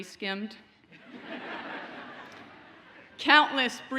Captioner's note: audience laughs